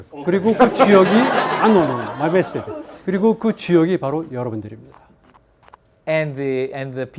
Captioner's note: many laughing; speaking in Korean